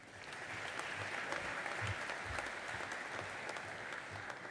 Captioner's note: audience applauding